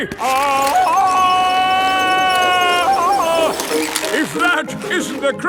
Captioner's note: yelling